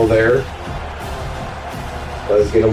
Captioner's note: crowd Noises